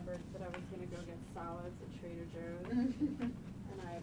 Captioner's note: laughing